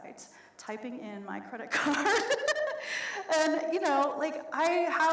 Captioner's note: laughs